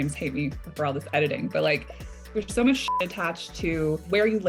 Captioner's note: beep